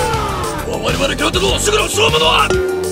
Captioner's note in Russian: непереводимая японская речь